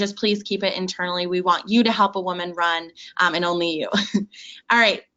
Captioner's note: chuckles